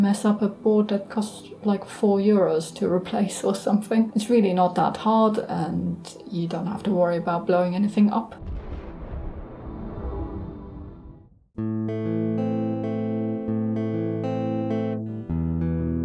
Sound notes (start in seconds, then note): 8.3 sound of an explosion